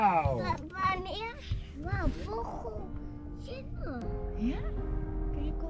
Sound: speaks in an indistinct language

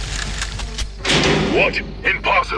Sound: cage explodes

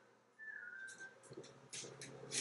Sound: whistling back

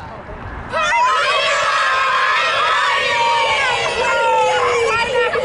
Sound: students yelling and laughing

